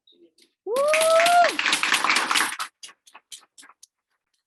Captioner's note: audience applauding